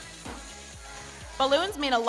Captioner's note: balloon pops